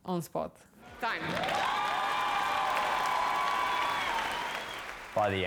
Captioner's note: cheering